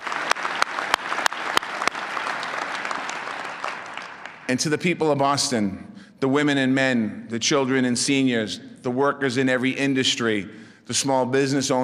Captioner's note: applause